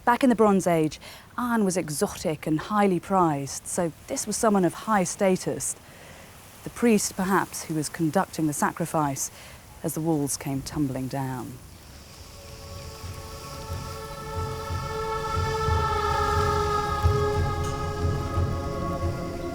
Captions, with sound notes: Back in the Bronze Age, iron was exotic and highly prized, so this was someone of high status. The priest, perhaps, who was conducting the sacrifice as the walls came tumbling down. (eerie music) (insects buzzing)